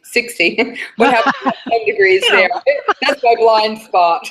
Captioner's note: laughter